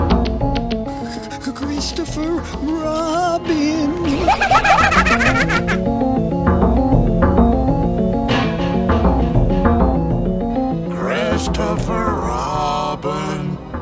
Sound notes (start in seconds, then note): 4.0 Mask Laughing